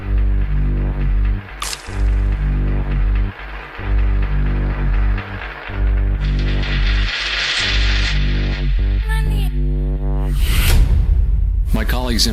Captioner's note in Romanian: Aplauze